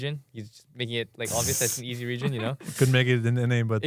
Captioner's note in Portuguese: risos